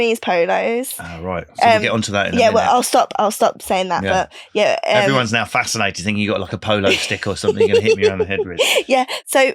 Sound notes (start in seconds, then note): 6.8 laughing